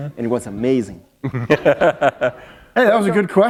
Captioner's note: laughter